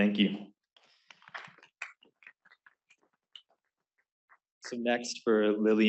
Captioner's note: applause